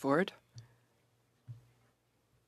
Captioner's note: speaking French